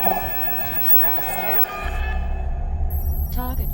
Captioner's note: vortex rushes